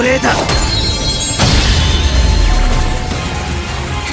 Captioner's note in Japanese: 効果音